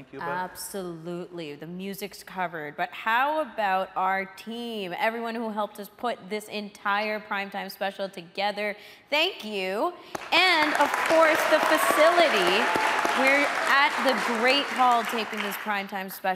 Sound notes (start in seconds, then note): 10.5 audience cheering